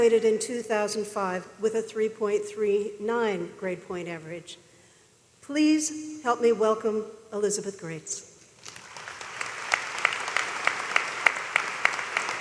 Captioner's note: applause